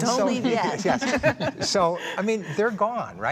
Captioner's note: all laughing